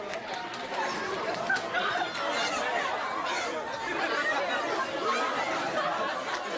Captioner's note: laugh